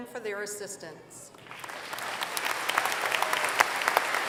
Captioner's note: applause